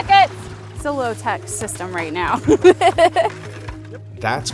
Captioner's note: laughs